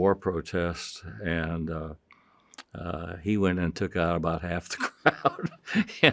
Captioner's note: chuckles